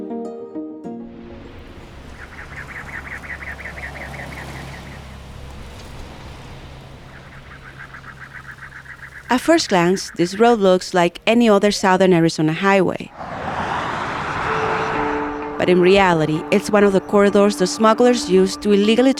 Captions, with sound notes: (Voiceover) At first glance, this road looks like any other Southern Arizona highway, but in reality it's one of the corridors the smugglers used to illegally